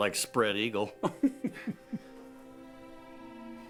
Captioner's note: laughs